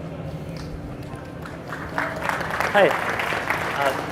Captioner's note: audience applause